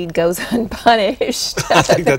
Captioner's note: laughter